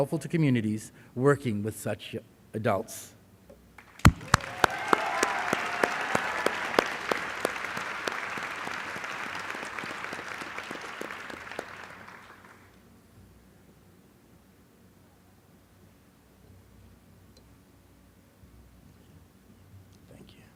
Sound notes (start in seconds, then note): 5.8 applause